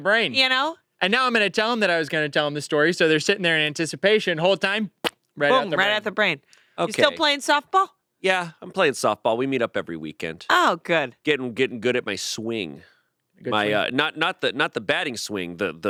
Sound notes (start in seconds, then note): none